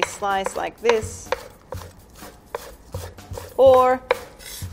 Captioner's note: knife tapping against wooden board